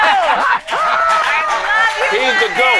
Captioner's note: cheering and clapping